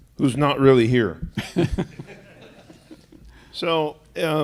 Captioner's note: laughter